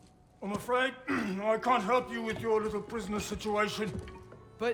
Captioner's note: clears throat